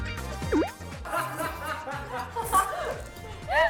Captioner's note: slurp